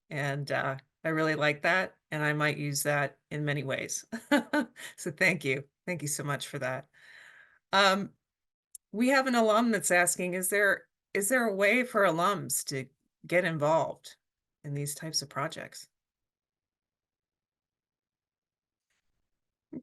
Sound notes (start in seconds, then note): 4.4 chuckles